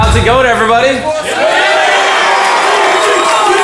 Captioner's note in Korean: 환호